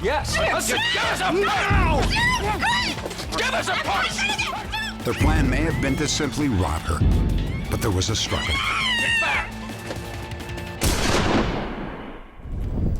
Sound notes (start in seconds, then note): 0.5 screams; 10.8 gun shot